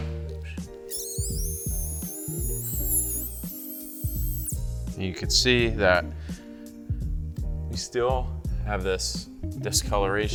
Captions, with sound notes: (high-pitched buffer revving) And you could see that we still have this discoloration